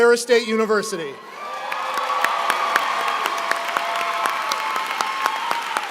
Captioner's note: applause